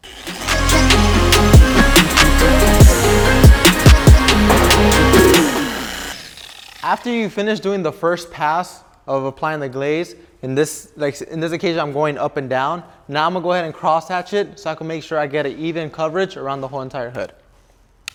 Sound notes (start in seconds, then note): 0.2 hip hop music; 5.7 polisher whirring